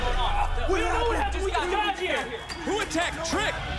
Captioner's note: yelling